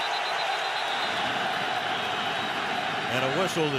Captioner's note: whistle blows